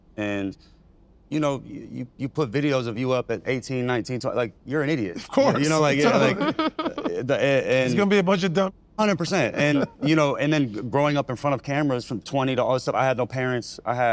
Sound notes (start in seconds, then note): 6.7 laughs